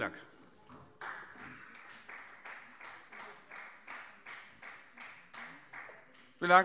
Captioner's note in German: Beifall Freie Demokraten